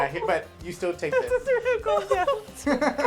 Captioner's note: laughing